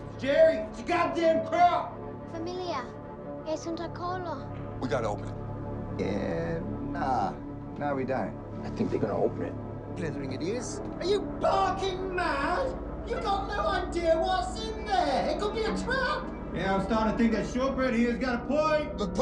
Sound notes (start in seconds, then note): 2.2 Mya speaking in foreign language